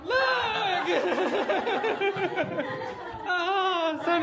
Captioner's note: laughs